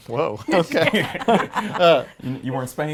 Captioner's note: laughs